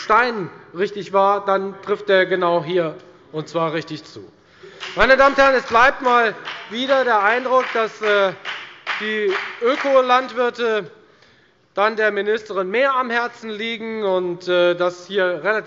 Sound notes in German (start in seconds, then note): 4.6 Beifall bei der FDP